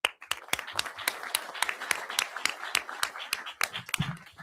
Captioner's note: audience applauding